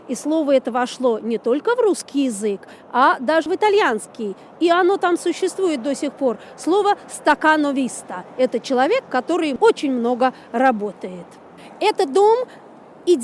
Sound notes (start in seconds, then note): 8.9 in Italian